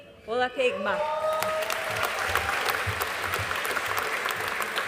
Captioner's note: audience applauding